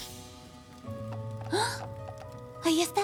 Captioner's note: gasp